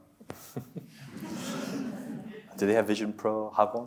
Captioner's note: chuckles; audience laughs